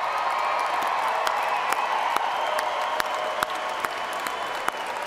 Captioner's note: cheers and applause